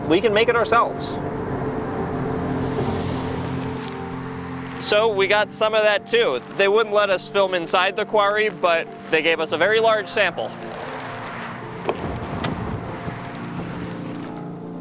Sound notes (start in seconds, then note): 2.4 cars driving